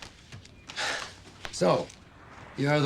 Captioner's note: exhales